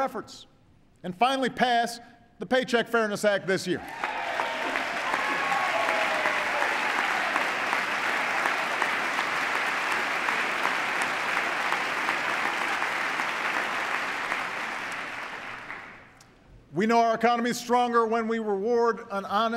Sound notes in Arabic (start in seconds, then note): 8.1 تصفيق